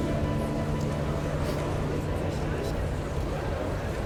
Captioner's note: all chattering